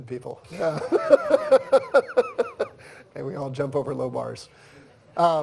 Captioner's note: laughs